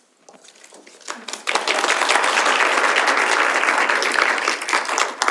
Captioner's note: audience applauds